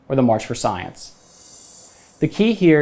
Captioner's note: graphics whooshing